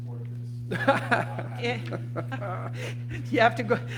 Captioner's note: laughter